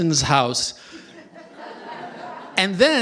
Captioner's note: laughter